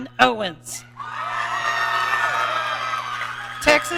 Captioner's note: audience cheering